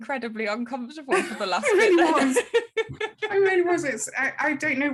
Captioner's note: all laughing